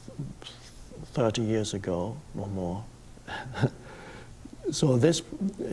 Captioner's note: laughs